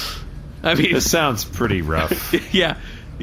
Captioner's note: laughs